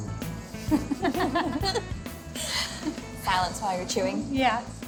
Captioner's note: laughs